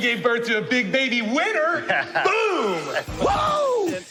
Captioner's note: chuckling